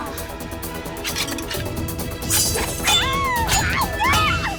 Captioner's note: screaming